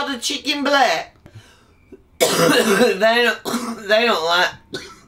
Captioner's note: coughs